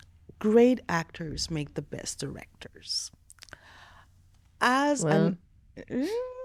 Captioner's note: grunting; laughing